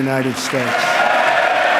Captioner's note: applause